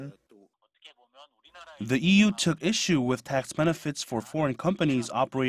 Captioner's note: Korean